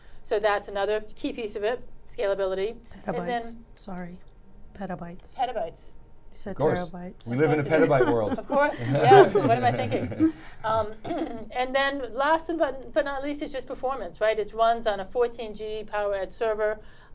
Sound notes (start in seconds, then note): 7.4 laughs; 11.1 all laugh